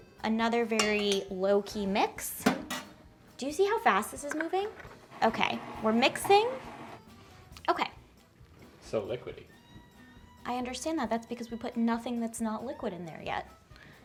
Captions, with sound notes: Another very low key mix. Do you see how fast this is moving? (mixer whirring) Okay, we're mixing. Okay. - It's so liquidy. - I understand that. That's because we put nothing that's not liquid in there yet.